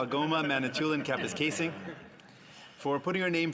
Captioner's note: speaking in French